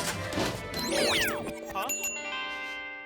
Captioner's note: sniffs